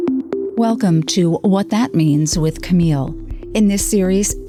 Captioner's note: voiceover